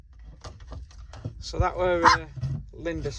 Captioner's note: laughing